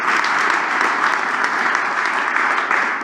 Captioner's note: applause